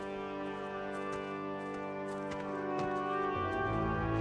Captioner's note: footsteps